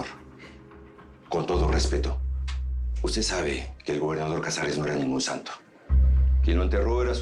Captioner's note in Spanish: none